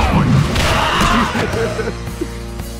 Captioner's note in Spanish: Coach se ríe